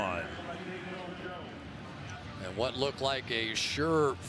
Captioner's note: pa announcement